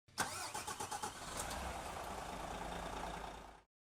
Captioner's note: car starting